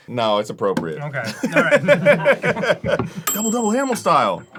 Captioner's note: everyone laughs